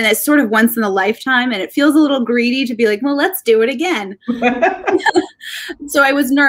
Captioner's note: laughing